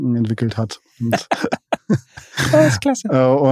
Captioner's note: lacht